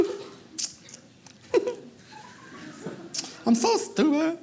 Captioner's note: giggles